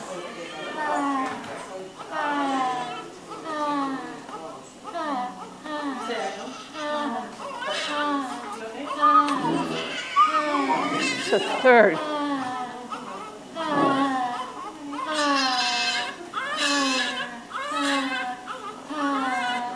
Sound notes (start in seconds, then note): 5.4 baby crying – Woman says hah-hah in time with baby’s cry